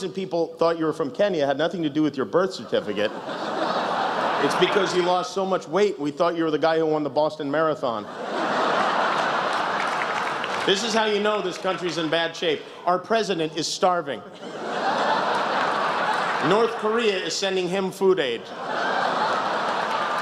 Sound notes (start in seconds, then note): 8.0 laughter, applause; 14.3 laughter